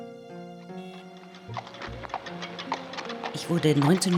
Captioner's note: horses clopping; speaking German